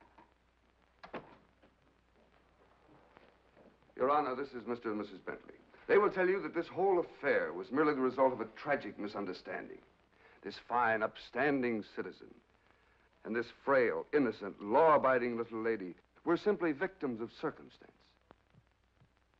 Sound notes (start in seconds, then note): 1.0 door closes